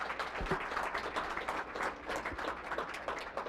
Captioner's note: applause